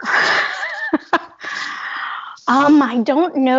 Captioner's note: laughter